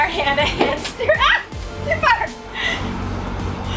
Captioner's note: yells quickly